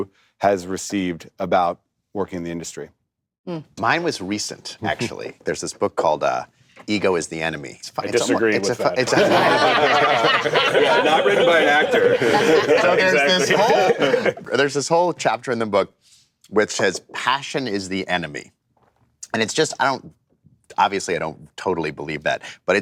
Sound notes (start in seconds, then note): 8.6 laughter